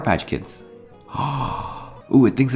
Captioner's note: gasps